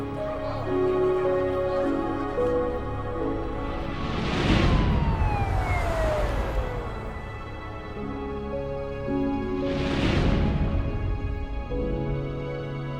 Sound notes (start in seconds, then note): 0.3 somber music; 4.8 siren blaring